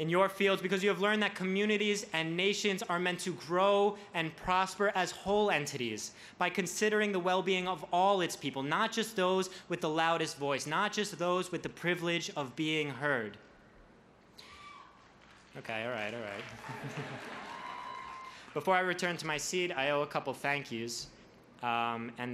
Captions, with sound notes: in your fields because you have learned that communities and nations are meant to grow and prosper as whole entities by considering the well-being of all its people, not just those with the loudest voice, not just those with the privilege of being heard. (audience member cheers) Okay, alright, alright. (laughs) Before I return to my seat, I owe a couple "thank you"s